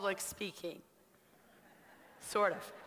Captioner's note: laughter